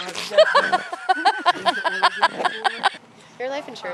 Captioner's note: laughs